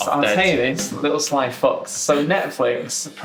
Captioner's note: laughing